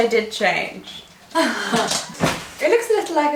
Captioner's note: laughs